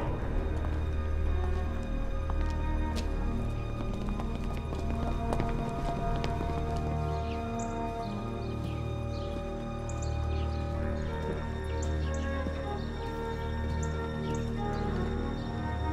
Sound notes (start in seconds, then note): 4.3 running footsteps; 7.5 birds chirping